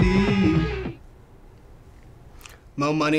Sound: silence

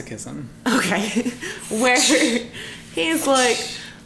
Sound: laughter

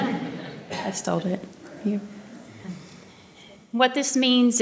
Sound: laughter

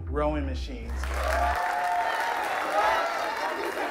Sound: students applauding and cheering

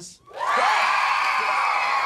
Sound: cheering

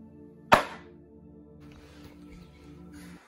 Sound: another smack for good measure

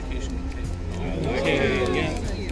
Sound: cheering; chatter

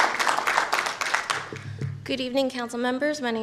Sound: applause

